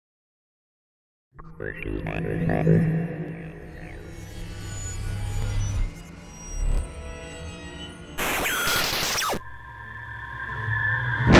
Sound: sound Effects

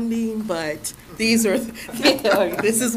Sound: laughter

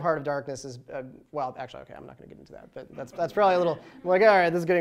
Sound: laughter

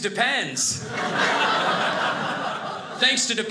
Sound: audience laughing

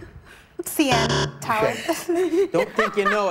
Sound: buzzer

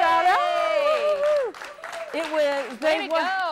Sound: cheers

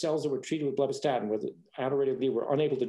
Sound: speaking faintly

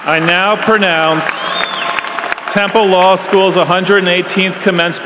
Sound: applause

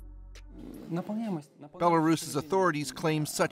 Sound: speaking russian

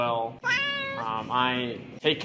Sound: cat meow

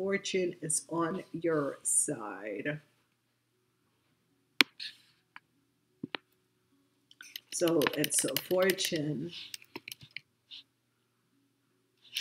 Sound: typing

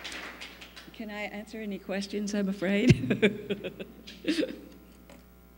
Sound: applause; laughs

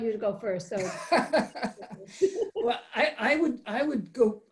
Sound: laughs

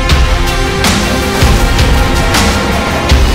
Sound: spectrometer equipment explodes

